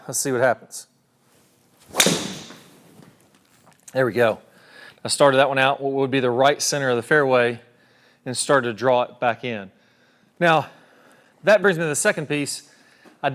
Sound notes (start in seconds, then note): 1.8 ball cracking